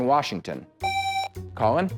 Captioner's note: buzzer